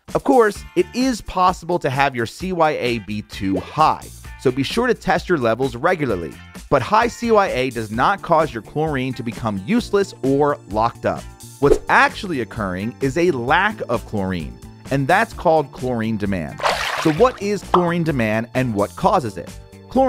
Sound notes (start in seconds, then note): 16.6 water splash